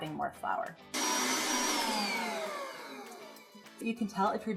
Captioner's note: whirling